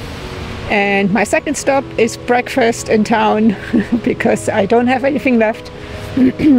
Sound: laughs

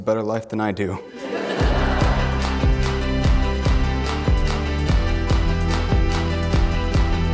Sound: upbeat music; audience laughs

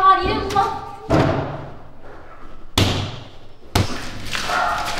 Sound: emma hits the door

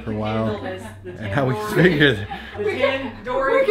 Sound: laugh

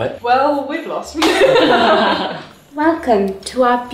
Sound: laughing

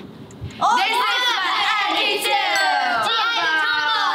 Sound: timer ticking; bell rings

